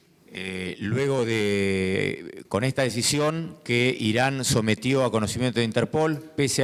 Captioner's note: speaking in foreign language